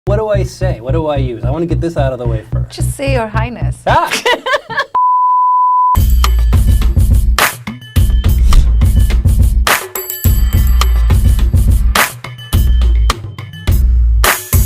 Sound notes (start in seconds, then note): 3.8 laughs loudly; 5.9 upbeat music